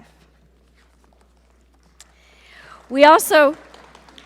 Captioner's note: audience applaud